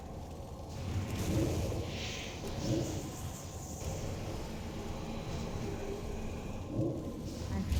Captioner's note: wind howling